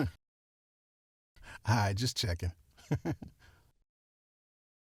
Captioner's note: chuckles